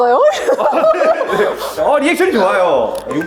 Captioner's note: laughs